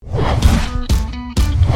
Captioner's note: logo whooshing; lively upbeat music